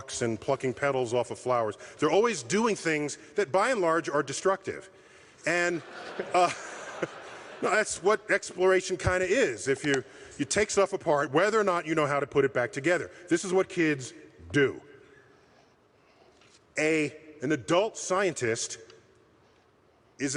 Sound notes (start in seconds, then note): 5.8 chuckles